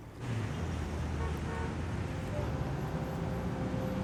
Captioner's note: horns honking